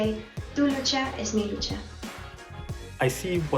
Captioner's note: speaking a foreign language